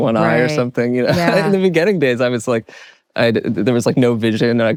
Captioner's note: laughs